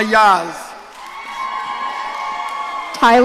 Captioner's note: audience cheering